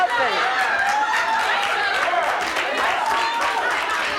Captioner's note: audience applauds